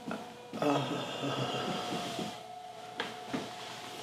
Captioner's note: Scott groans